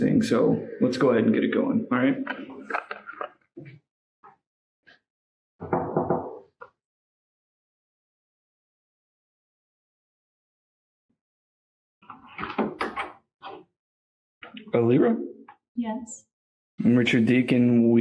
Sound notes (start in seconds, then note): 5.6 knocking